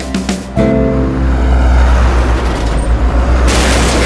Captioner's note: Truck crashing